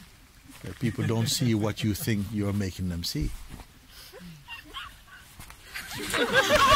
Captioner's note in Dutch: gelach